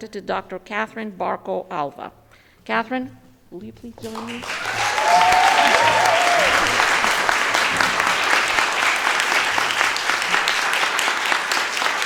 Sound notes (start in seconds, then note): 4.0 audience applauding